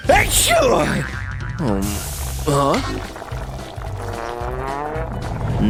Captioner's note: sniffs loudly